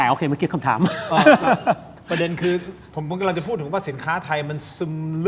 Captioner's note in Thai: เสียงหัวเราะ